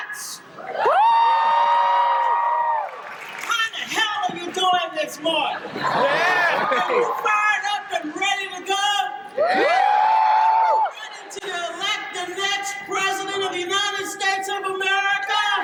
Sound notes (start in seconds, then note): 0.5 crowd cheering; 4.2 crowd laughs and cheers; 9.3 more crowd cheering